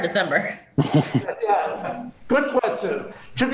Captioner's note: laughs